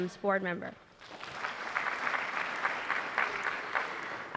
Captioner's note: applause